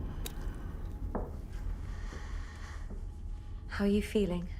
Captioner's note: footsteps approach